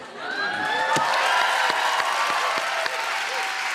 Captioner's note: cheers and applause